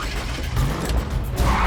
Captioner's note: ignition sputtering; engine starts; tires screeching